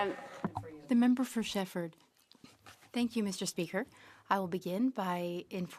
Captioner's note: speaking French